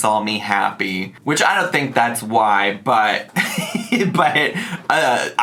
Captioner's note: laughs